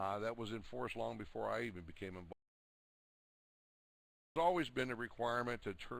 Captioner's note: audio drops